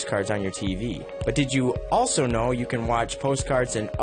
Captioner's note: voiceover